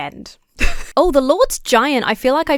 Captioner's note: chuckles